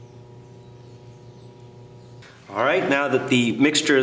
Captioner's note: sound of birds chirping